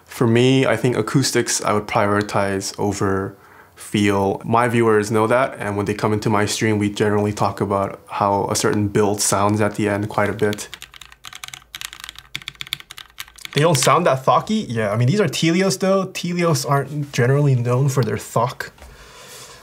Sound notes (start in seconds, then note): 10.2 quick tapping noise